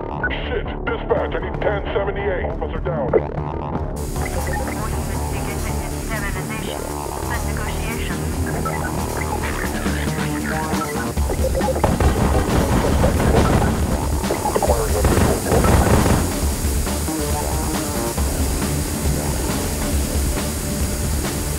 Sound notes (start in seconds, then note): 0.0 flatline; 0.0 radio; 5.1 radio; 11.8 muffled gunfire